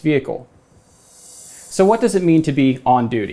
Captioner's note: graphics whooshing